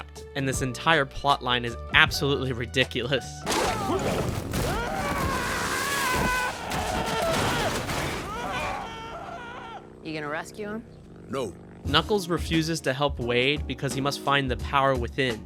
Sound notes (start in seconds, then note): 3.5 screaming